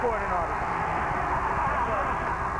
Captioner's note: cheers and applause